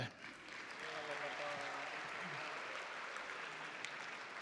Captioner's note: audience applauding